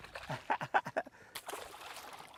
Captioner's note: laughter